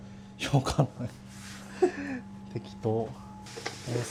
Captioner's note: laughs